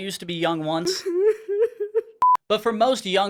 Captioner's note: sad crying